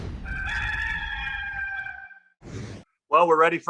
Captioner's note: rooster crows